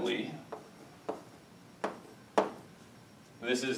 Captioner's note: chalk tapping